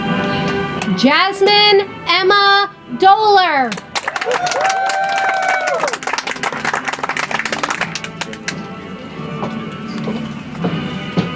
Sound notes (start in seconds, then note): 3.7 audience applauds; 8.7 soft music